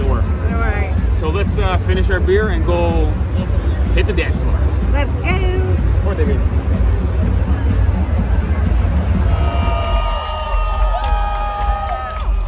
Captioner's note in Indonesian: Tepuk Tangan